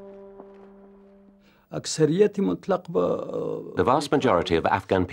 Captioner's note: speaking Afghan